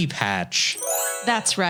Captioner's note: magical sound